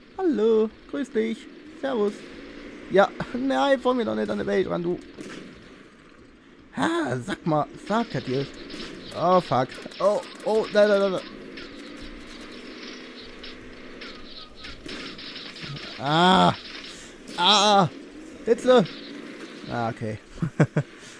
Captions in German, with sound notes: Hallo. Servus. Grüß dich. Nein! Fahr mir doch nicht in den Weg! *Gernervtes Seufzen* Sapperlot! Oh, Fuck. Oh, oh... Nein, nein, nein, nein. Ahh! Ah, Hitze! Okay... *Lacht*